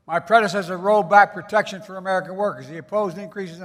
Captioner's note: none